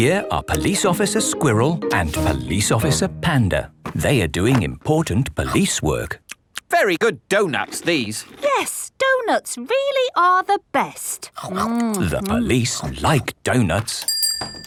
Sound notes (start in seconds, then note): 7.6 munching